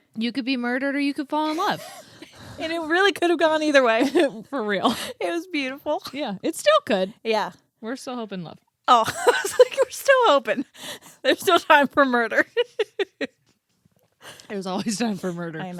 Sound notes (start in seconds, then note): 1.6 both laughing; 9.0 laughs; 12.3 laughs